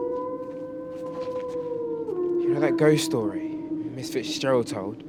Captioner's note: wolf howls